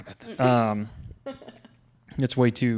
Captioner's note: laughing